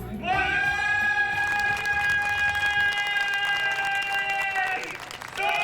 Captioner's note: cheers and applause